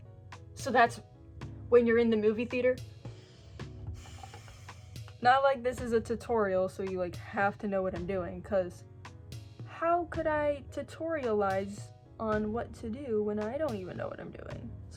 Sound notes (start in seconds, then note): 3.9 heavy sigh